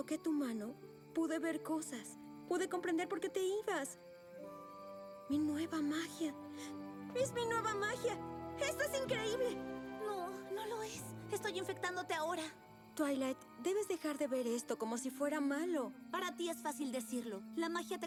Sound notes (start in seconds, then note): none